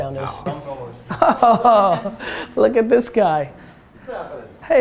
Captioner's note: Gary laughing